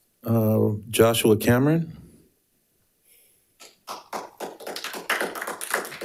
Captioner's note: audience applauding